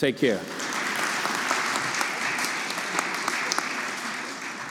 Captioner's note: audience applauding